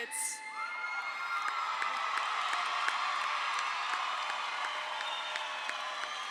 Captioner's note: audience cheers; audience applauds